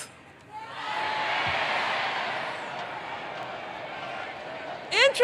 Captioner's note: crowd